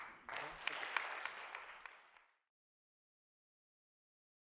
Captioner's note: audience applauds